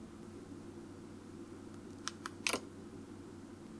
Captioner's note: iPad switches off